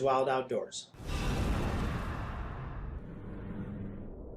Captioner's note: whoosh